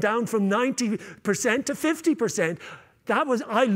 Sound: none

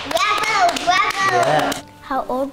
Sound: clapping

